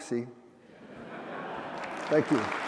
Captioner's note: laughter; applause